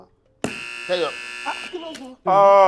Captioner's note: buzzer sounds